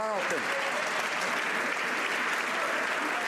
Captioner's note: some Applause